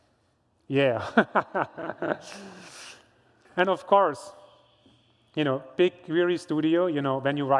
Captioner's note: laughs